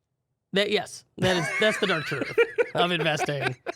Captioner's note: laughs